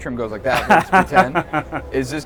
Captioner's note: laughs